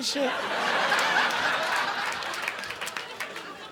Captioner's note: audience laughing